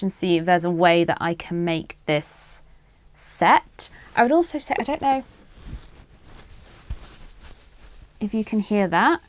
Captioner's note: scrunches yarn near microphone